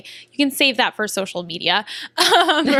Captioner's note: laughter